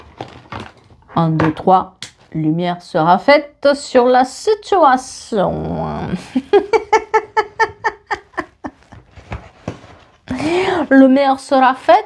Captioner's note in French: rires